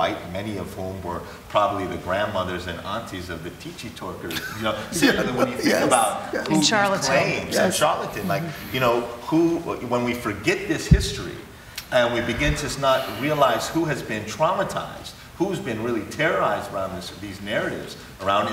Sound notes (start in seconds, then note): 4.3 laughs